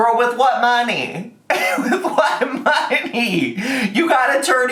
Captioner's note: laughing